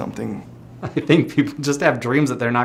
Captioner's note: laughing